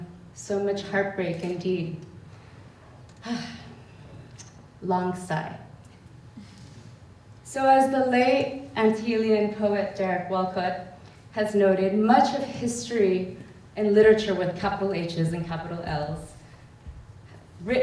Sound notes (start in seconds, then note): 2.9 long sigh